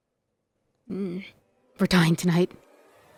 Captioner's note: music abruptly stops, becoming completely silent; grandad hums